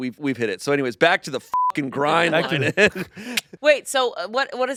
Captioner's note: beep